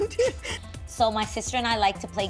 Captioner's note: laughter